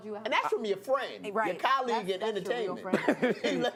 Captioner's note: laughter